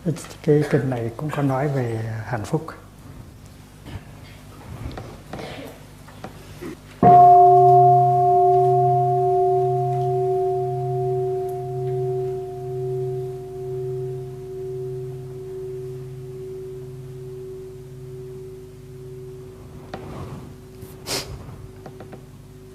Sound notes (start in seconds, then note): 7.0 bell